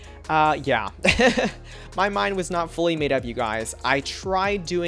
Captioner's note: laughs